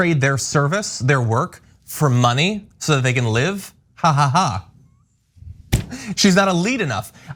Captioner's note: laugh